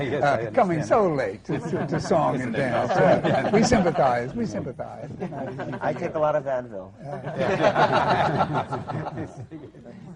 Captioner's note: laughing